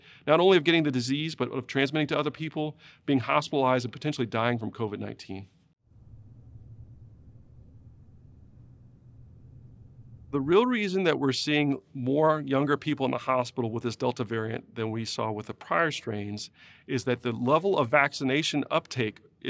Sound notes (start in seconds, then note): 5.6 silence